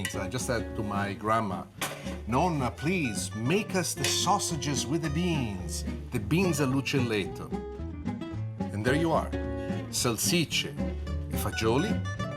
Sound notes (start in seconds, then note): 6.7 speaks Italian